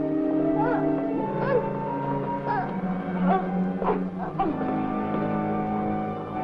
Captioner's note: gasping and struggling